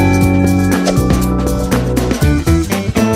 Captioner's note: swish